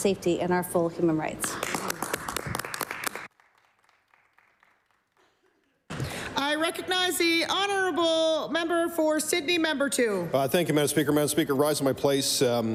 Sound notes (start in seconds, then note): 5.3 applause